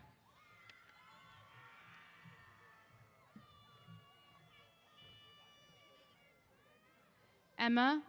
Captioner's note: cheers